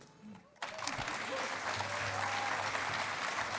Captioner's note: cheering and applause